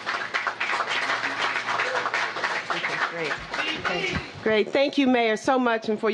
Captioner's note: applause